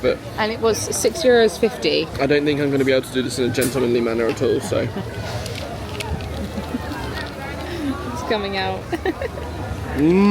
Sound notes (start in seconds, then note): 6.1 chuckling; 8.8 laughing